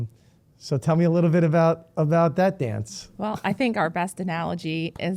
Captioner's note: laughing